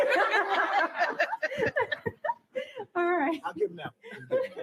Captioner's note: laughter